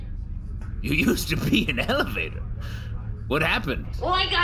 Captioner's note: laughing